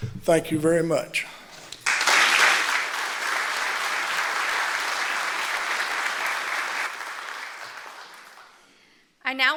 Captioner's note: applause